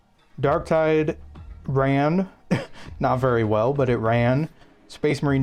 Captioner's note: laughter